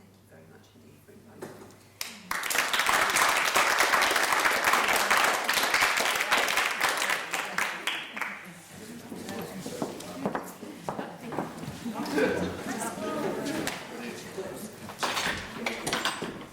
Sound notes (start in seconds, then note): 2.0 applauding; 8.3 crowd chattering